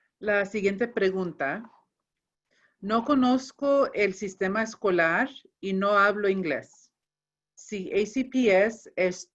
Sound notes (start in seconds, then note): 0.5 speaking in foreign language